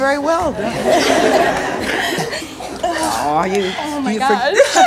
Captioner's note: audience laughs